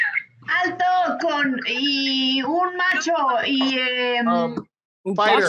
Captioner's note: woman speaking Spanish